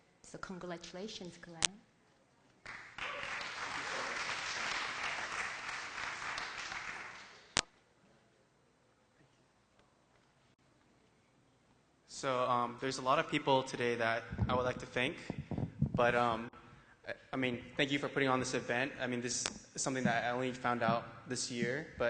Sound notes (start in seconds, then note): 2.6 applause; 7.9 silence